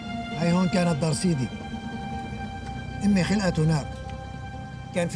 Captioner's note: abdul-basir speaks arabic